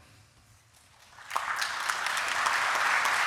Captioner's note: applause